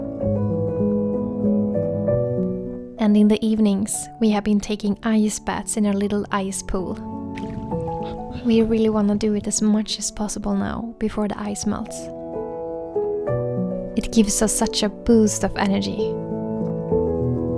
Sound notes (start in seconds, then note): none